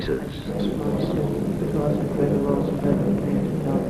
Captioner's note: men praying